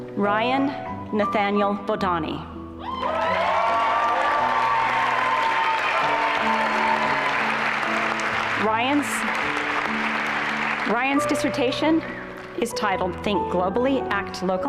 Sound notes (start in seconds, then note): 2.9 applause and cheering